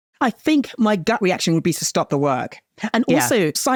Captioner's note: gasps